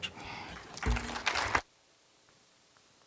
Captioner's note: applause